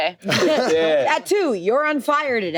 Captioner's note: everyone laughs